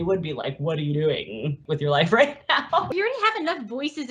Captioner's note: laughs